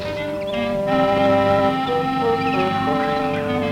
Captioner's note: birds chirp